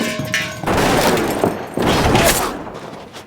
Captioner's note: gunshots